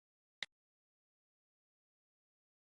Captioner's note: click